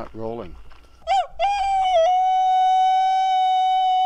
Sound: howling

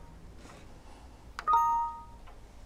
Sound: error sound

